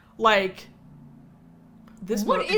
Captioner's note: engine vrooms